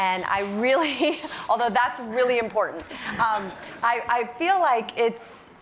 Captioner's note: laughter